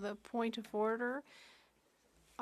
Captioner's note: speaking French